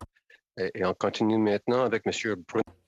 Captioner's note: speaking French